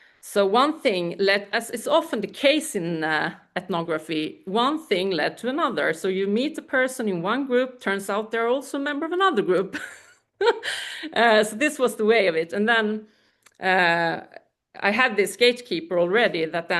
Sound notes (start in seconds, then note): 10.0 laughs